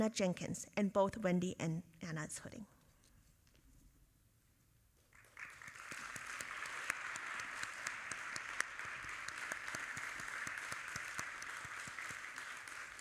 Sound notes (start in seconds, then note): 5.1 audience applauding